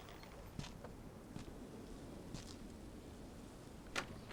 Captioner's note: footsteps